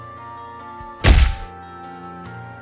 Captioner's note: thwack